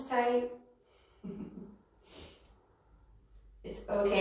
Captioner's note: chuckles